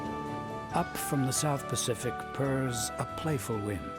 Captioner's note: voiceover